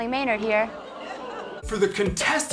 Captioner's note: oohs